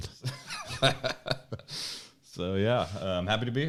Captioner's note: laughing